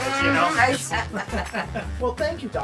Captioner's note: laughs